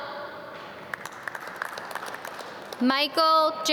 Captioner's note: audience clap